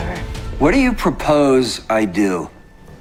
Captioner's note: shouting